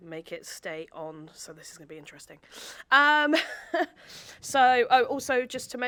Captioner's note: chuckles